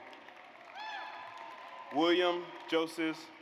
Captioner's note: audience applauds